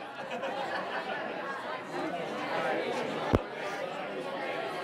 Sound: people chatting

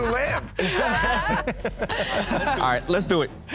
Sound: laughter

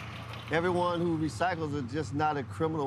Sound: voiceover

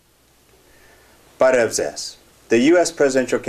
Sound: armenian

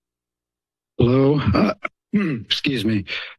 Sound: clears throat

